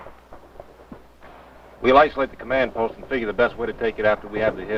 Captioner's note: guns blasting